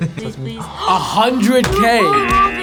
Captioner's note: both gasp